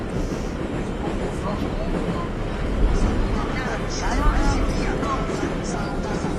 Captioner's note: chatter